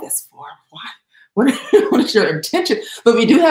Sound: laughs

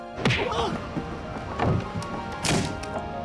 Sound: grunting

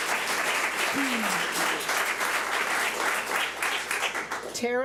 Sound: public applauding

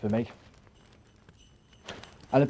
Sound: jingle bells ringing

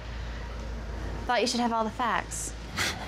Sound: chuckles

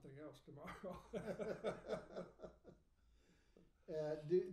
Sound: laughing

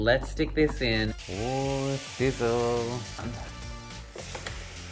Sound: sizzling

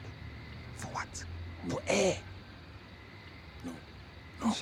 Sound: whispering

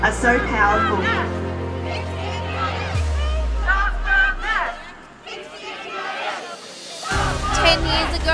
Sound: chanting

